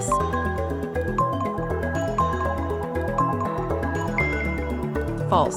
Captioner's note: timer beeping